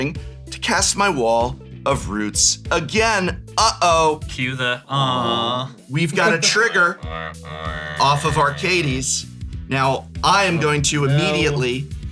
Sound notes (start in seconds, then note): 7.0 dubious metal noise